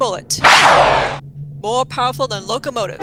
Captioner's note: gunshot, with ricochet; train whistle blows, locomotive rumbles